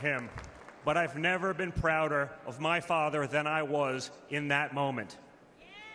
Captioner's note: applause